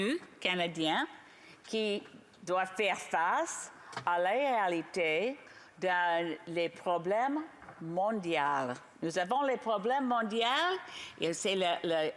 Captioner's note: speaking French